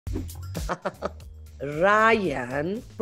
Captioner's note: Salma laughs